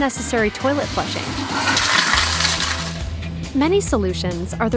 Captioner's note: water splashing